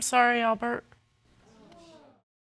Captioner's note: audience exclaiming